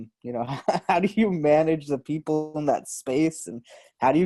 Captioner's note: laughs